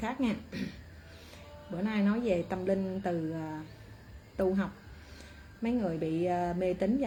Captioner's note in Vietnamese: hắng giọng